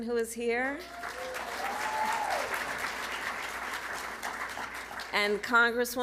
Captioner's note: applause